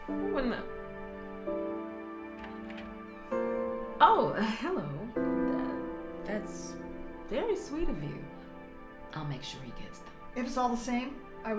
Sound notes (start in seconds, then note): 2.3 door clacks